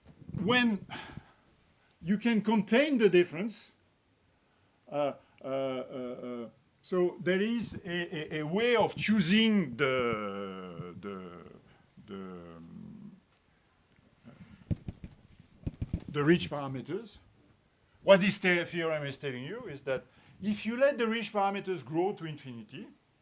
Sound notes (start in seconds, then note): 14.3 microphone taps